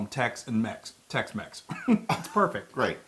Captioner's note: laugh